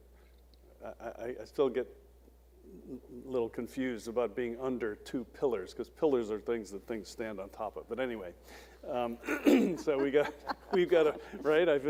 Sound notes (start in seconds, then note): 9.3 woman laughing